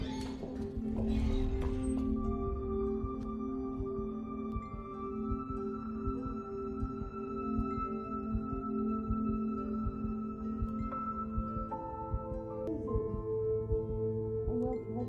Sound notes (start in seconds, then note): 0.0 door creaks